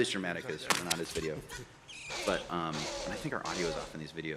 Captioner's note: gunshots